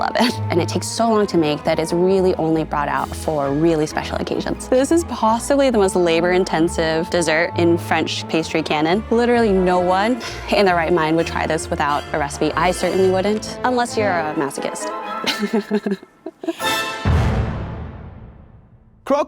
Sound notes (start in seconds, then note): 15.1 laughs; 16.5 intense music